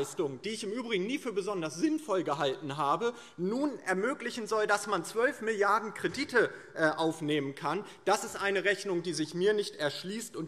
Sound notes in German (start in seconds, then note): none